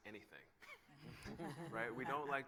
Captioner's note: laughter